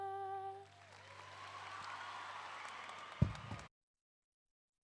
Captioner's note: audience applauding